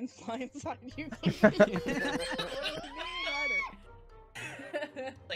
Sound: group laughing

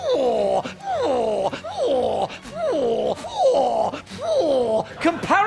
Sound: making a ‘Phwoar’ sound TOO MANY TIMES

